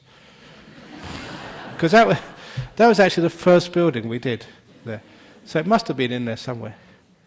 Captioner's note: laughter